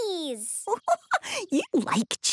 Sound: giggling

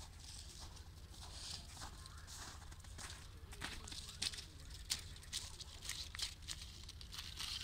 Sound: sound of birds

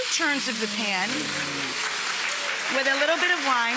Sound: audience applause

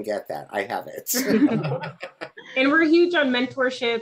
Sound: all speakers chuckling

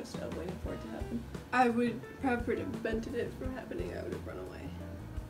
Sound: stutters

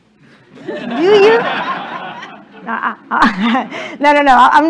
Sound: laughter

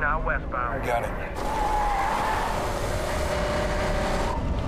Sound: tires squeal

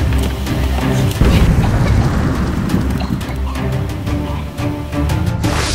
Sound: dramatic music; explosion; coughing

